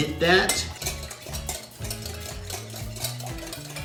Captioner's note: whisking